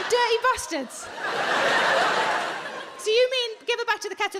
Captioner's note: audience laughing